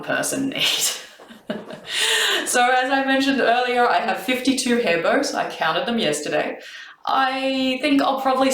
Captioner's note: laughs